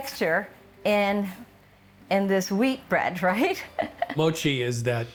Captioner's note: chuckling